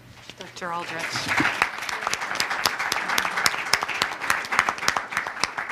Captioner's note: audience applause